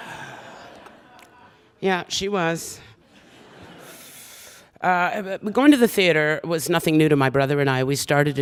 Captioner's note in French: Soupir